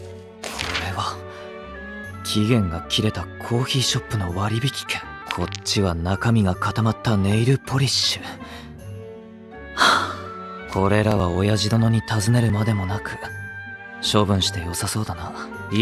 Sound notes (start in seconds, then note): 0.0 rustling noises; 9.7 sighs